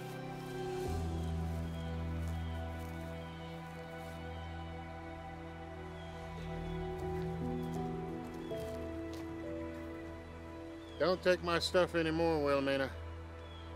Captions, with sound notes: (gentle music) (birds chirping) (gentle music) Don't take my stuff anymore, Willamina.